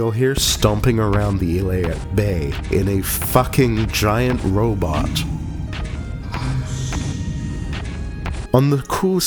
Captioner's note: distant I see you and screaming